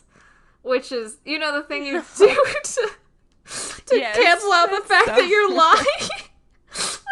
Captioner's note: both laugh